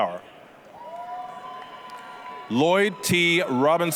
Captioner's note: applause, cheering